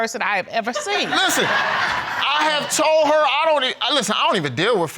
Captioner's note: audience laughing